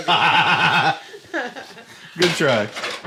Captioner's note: laughter